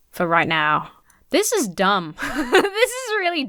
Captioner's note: laughs